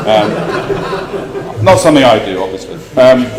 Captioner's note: laugh